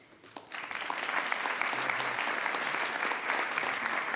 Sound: everyone applauding

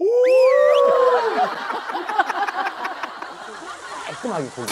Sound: exclaiming

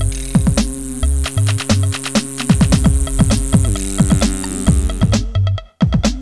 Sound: rotors spinning

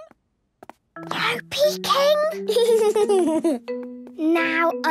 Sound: whispering; Danny giggling

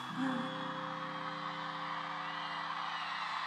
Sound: cheers and applause

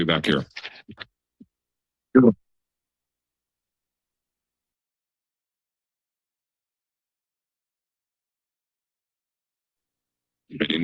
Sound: pause

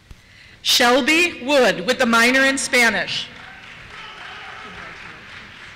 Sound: cheers

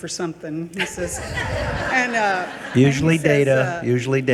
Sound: people laugh

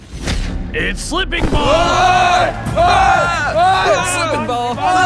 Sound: scream

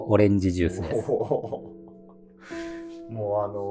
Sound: laughing

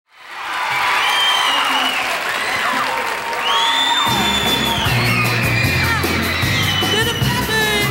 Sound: audience cheers

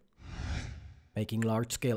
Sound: screen whooshes

